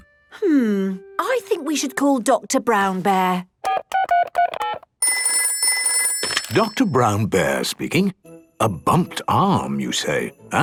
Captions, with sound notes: - Hmm... I think we should call Doctor Brown Bear. - (dial tones beeping) - (ringing) - Doctor Brown Bear speaking... A bumped arm you say?